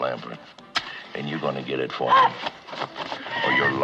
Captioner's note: gasps